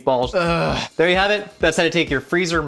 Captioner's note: moans